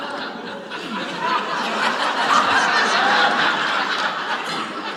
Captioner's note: audience laughs